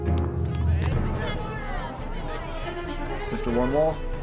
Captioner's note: reporters muttering